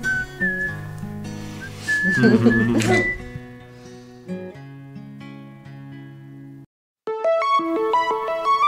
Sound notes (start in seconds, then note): 2.0 laughes